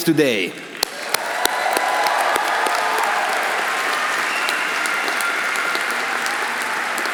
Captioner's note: audience applauding; audience cheering